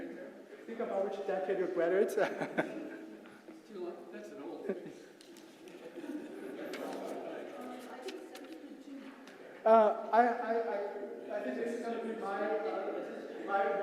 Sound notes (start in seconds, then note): 2.5 laugh